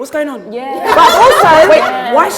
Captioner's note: laughter